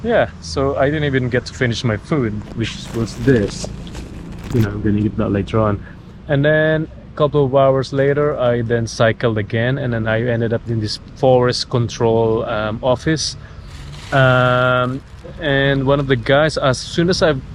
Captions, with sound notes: So yea, I didn't even to get to finish my food, which was this... I'm gonna eat that later on and then, a couple of hours later I then cycled again and I ended up in this forest (fire) control office and one of the guys... as soon as I